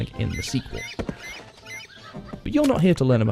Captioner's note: birds squealing